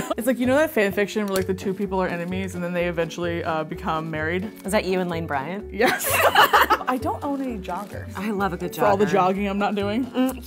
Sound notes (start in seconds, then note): 5.9 laughing